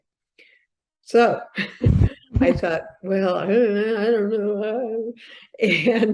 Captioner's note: laughs